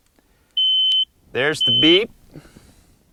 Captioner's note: high-pitched beep sound